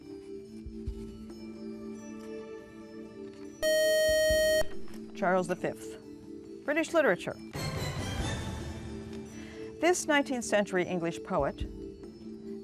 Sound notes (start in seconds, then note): 3.6 buzzer